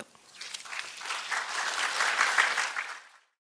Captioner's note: applause